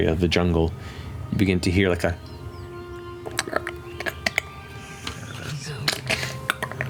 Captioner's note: clicking